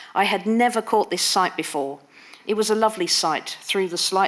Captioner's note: none